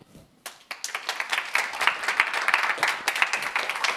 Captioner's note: class applauds